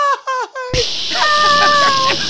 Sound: laughter

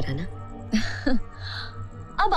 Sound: chuckles

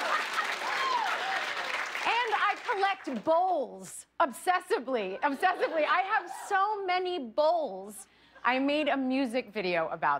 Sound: cheers and applause

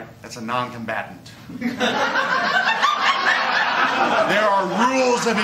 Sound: laughter

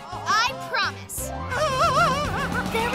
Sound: screaming

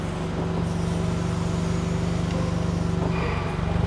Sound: motor humming

